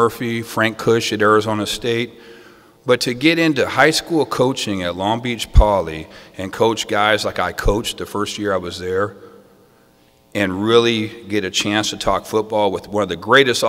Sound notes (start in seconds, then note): none